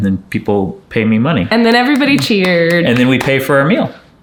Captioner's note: hands clapping